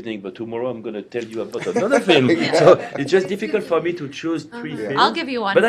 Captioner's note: laughter